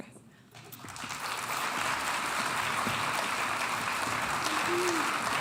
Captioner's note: audience applauding